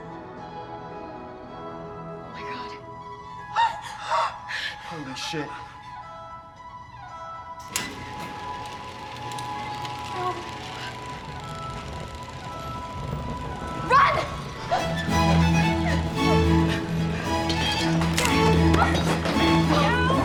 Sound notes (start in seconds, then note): 3.6 Merritt gasps; 7.6 gate grinds